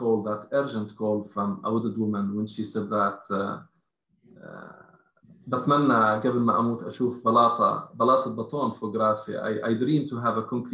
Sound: speaking arabic

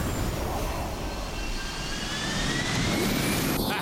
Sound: whooshing; high-pitched whirring; laughter

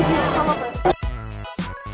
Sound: glitch

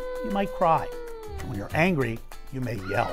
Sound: baby crying

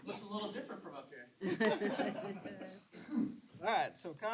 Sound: laughter

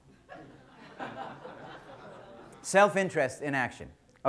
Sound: audience laughter

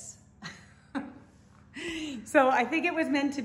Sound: woman laughs

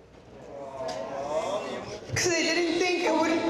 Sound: crowd awwing

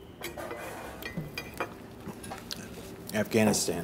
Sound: utensil tinkling

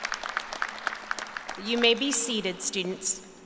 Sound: applause

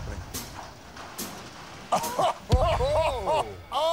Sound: laughter

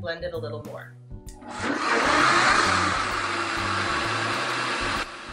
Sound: blender noises

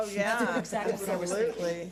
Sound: board laughs

